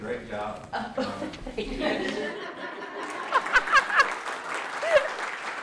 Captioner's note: laughing; participants applauding